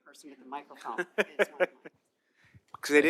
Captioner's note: laughter